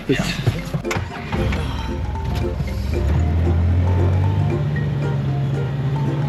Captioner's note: playful music; engine rumbling